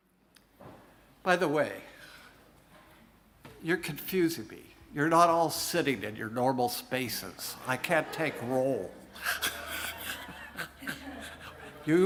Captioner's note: laughs